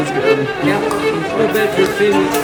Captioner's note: bottle caps popping; frantic string music